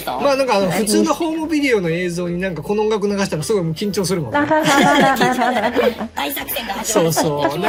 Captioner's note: laughs